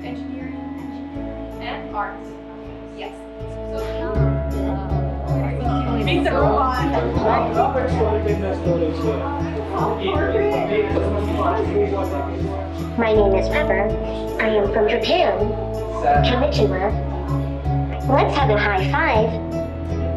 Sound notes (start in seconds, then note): 7.5 general chatter